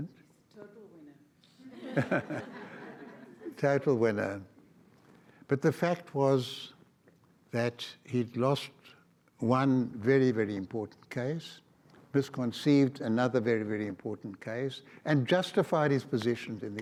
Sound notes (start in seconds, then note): 1.7 everyone laughs